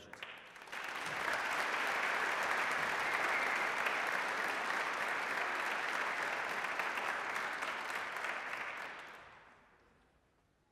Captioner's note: applause